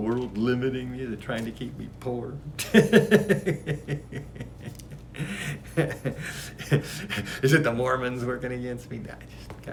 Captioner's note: laughs